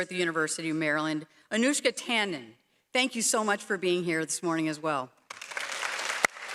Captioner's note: applause